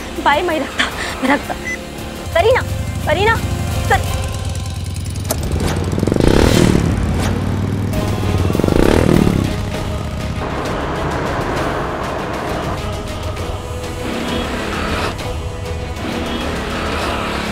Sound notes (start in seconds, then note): 6.0 whirring